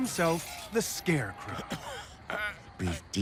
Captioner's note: coughing